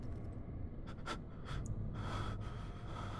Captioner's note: Daniel breathing shakily